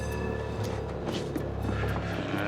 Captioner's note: trolley bell ringing